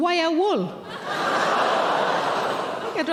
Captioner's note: audience laughing